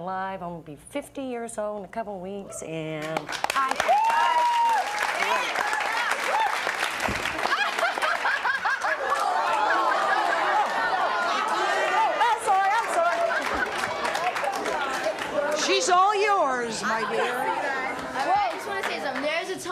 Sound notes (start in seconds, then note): 2.9 applauding